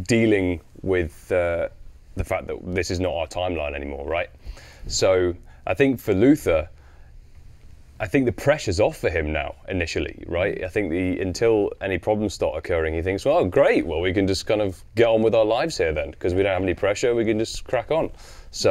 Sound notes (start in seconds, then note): none